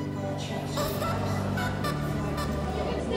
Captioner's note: airport announcement